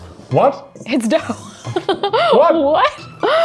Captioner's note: laughs